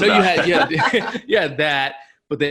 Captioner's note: laughing